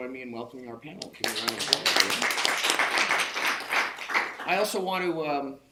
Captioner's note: audience members clapping